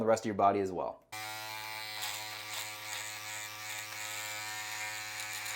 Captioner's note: trimmer buzzing